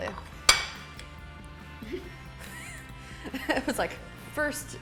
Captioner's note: plate clinks